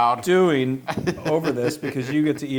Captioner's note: laugh